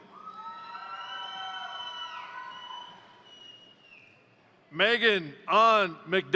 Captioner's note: crowd cheering; crowd applauding